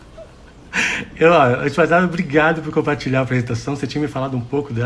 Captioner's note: laughs